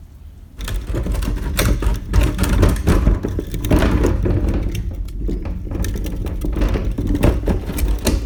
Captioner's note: rumble of wheels on driveway